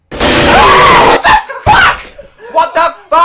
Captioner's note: screams